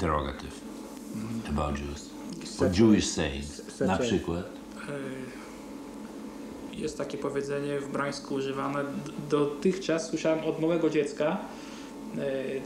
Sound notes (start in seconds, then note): 4.6 speaking Polish